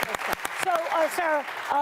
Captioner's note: applause